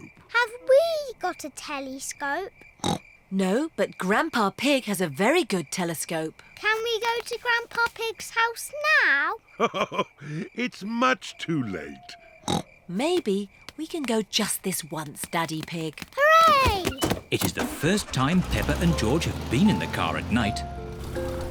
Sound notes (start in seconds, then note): 2.8 oinks; 9.5 chuckles; 12.4 oinks